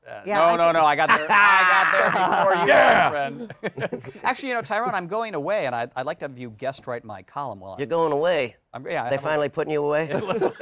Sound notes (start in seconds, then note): 3.3 chuckles; 10.1 laughter